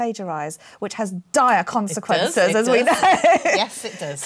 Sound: laughs

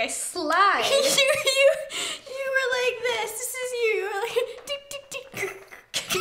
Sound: laughing; laughs

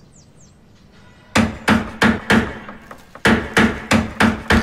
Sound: hammering

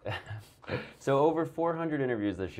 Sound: laughs

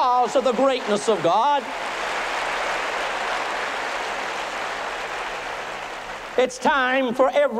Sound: applause

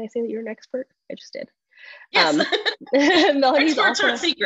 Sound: laughs

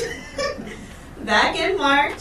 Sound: chuckles

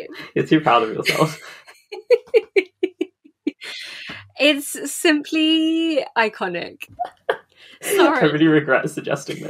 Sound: laughing; laughing

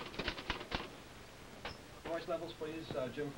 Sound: typewriter clicking

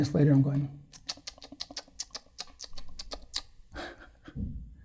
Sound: makes noises with his mouth

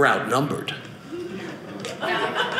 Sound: audience laughing

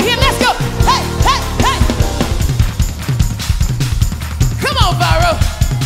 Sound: audience claps rhythmically

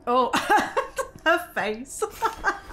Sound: laughing

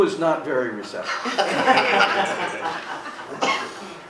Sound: laughing

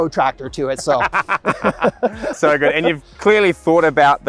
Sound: they laugh

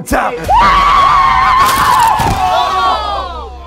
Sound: screaming

